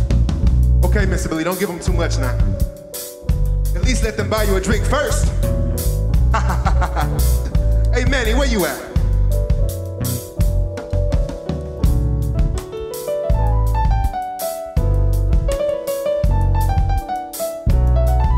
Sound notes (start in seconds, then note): 6.2 laughs; 9.3 instrumental music